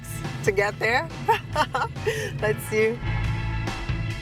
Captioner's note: laughs